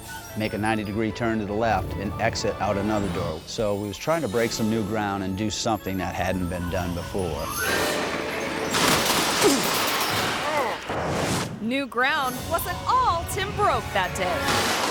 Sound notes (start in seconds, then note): 7.7 tables clattering; 8.9 person grunting; 10.9 image whooshes